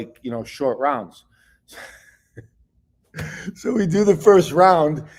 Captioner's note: laughs